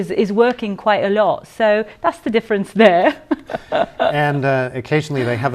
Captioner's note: laughter